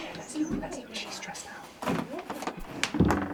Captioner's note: whispering